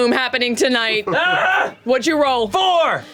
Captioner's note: yells